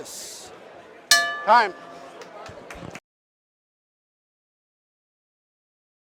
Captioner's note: bell ring